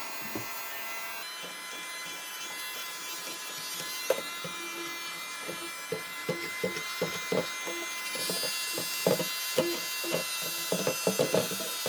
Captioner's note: sped up vacumming